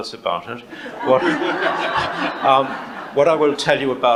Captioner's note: audience laughs